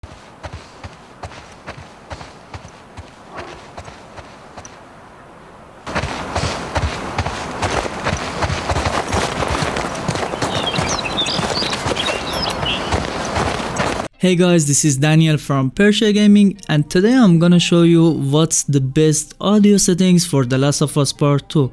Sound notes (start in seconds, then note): 0.0 foot step sounds; 5.8 louder foot steps sounds